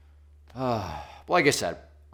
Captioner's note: sighs